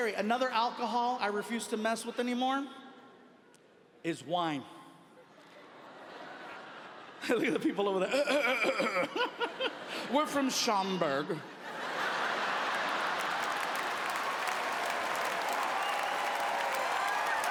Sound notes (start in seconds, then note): 5.2 audience laughing; 8.2 clears throat; 11.5 audience laughing; 11.9 laughs; 12.0 audience applauding